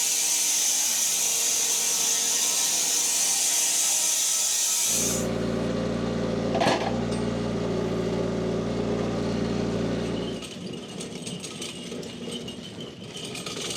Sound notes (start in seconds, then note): 5.2 engine rumbling; 10.7 machine rattling